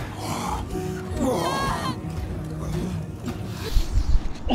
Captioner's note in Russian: Звуки сношения